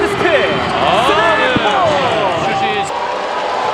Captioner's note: I just laugh out loud